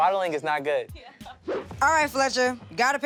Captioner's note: laughing